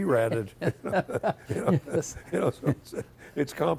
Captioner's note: both chuckling